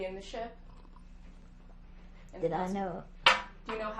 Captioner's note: drinking